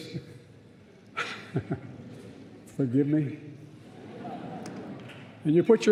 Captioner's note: laughs